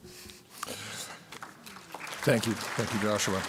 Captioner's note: applause